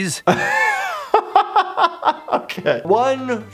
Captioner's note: laughing